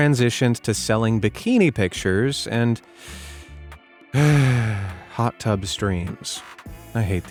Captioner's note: sigh